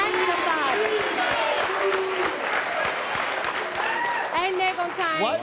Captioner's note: cheering and booing